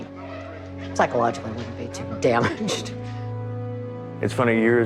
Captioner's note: laughs